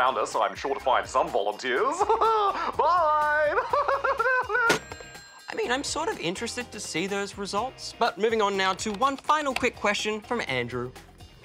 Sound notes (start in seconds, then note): 1.8 chuckles; 1.8 laughs maniacally